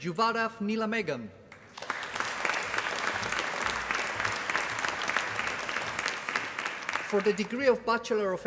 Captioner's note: applause